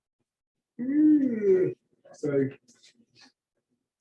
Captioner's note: yawns